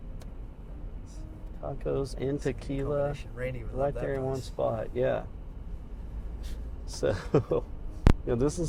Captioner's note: laughter